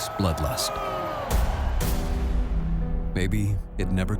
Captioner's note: cheers and applause